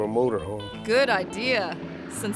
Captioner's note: helicopter revving